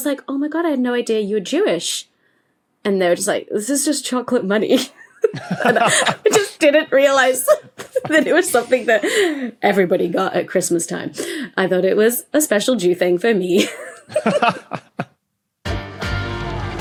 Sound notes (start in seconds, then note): 5.0 scattered laughter; 13.6 laugh